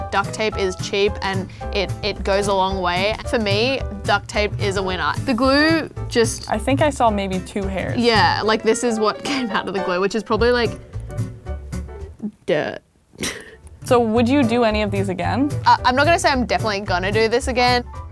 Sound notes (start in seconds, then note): 13.2 both snicker; 17.8 upbeat music